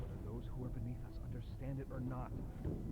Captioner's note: none